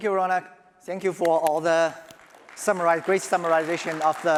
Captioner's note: applause